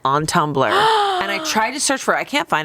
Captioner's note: gasps